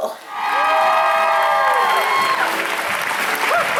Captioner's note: applause